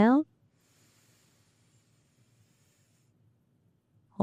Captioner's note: breathing